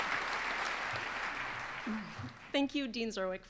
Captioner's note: applause